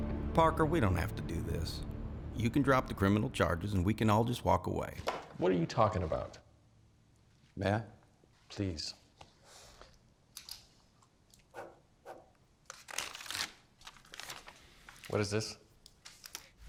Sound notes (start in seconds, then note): 10.0 pen clicks